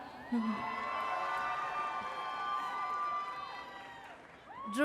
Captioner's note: audience cheers